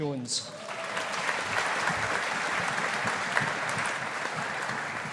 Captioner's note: audience applauding